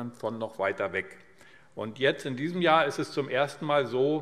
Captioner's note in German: none